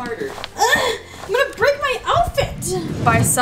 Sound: exhales

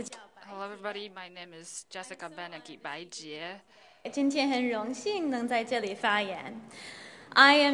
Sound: translates in Mandarin

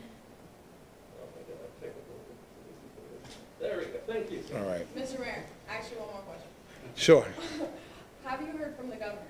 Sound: laughter

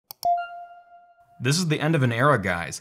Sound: mouse clicking; light music

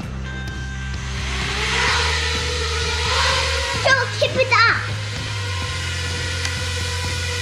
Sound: engine sound

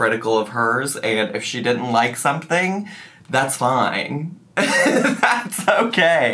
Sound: laughs

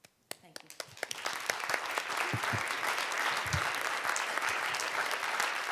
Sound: audience applauding

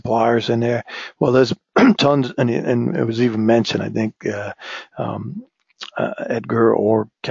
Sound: cough

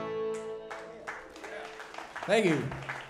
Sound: audience applauds

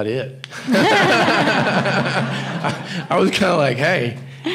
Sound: audience laughing

